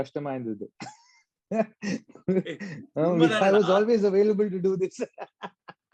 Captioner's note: laughs